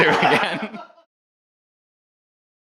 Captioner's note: both laughing